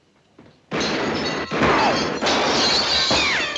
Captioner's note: gunshots